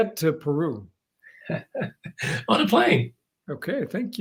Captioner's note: laugh